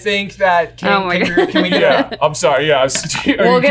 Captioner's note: laughing